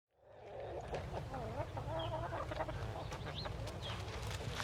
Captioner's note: chickens clucking and birds chirping